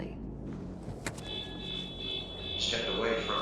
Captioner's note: car alarm